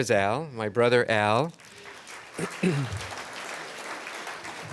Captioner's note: applause